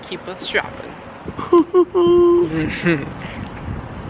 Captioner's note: chuckling